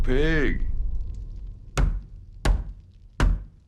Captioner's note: bat tapping